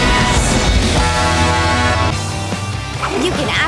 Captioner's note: horn honking